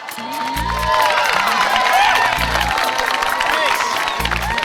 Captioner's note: audience cheering and applauding